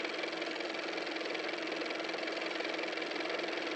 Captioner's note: car motor